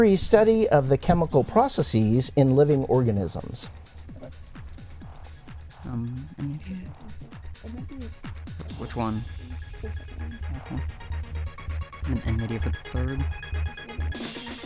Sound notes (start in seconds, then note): 8.8 whispering